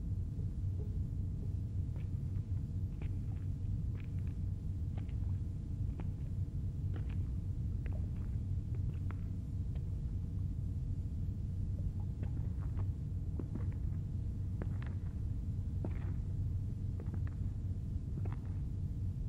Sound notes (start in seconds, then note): 13.4 shoes pacing